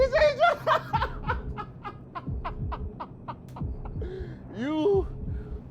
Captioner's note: laughing